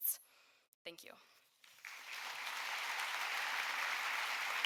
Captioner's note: audience applauding